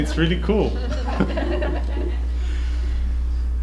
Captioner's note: laughter